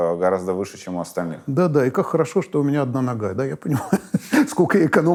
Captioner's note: laughs